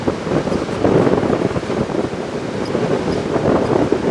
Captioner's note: wind blowing